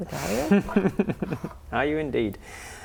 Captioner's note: evil laugh